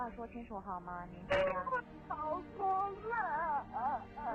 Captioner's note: wailing